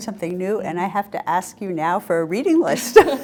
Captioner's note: both laugh